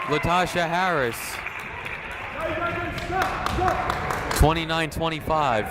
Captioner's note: crowd clapping